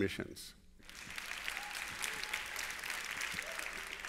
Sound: applause

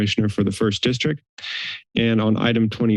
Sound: inhales

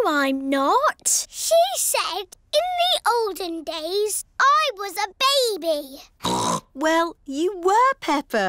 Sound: snorts

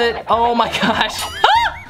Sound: laughs

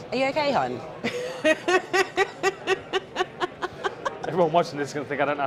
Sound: laughter

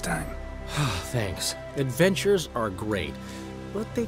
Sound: relieved sigh

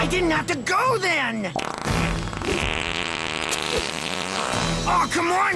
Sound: farts

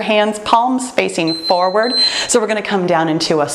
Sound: timer beeps

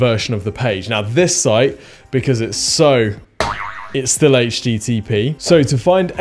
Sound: slapping

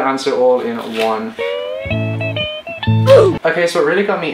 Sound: ooh! Effect

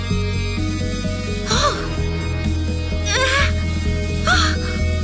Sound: Kishiko gasps

